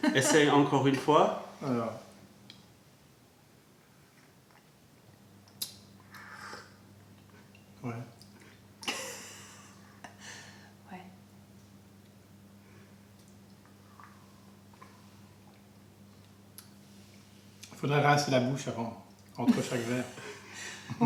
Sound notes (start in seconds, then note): 0.0 sips tea; 5.4 laughter; 7.2 french; 16.6 french; 19.4 laughter